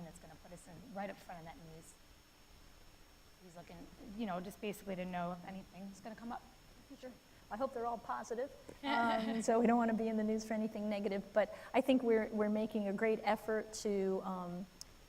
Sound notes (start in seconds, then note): 8.8 people laughing